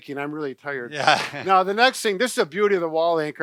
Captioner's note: chuckles